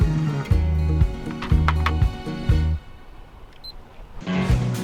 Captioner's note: click; beep